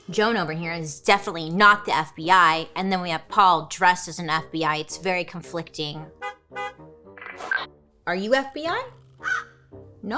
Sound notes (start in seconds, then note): 6.1 car horn honking; 7.2 static crackling; 9.2 Joan squawking